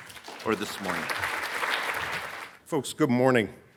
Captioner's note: audience clapping